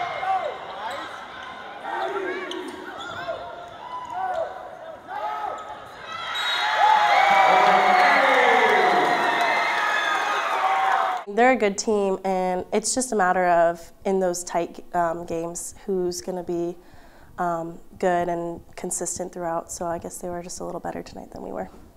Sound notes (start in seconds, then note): 0.1 crowd noise; 7.5 cheering